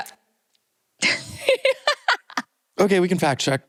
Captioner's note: laughter